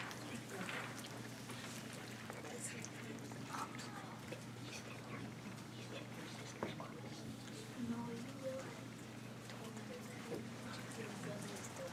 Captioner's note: whispering